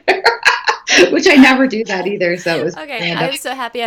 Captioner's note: laughing